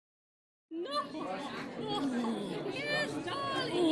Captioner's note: chattering